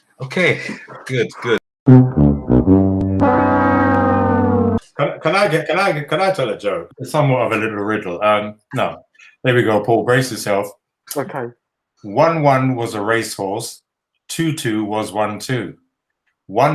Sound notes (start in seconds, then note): 0.0 silence; 1.9 sad trombone noise